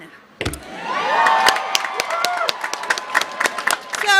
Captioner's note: cheers